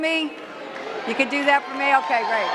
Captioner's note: cheering